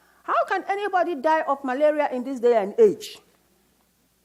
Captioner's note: none